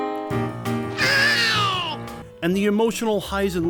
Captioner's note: angry Beaglespeak